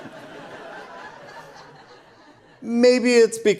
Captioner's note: audience Laughter